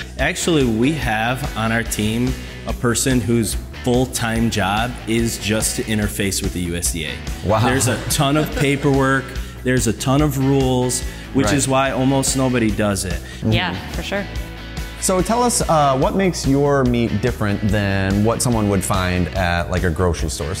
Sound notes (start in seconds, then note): 7.4 laughs